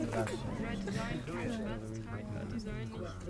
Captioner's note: indistinct chatter